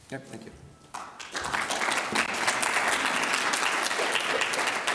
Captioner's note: audience clapping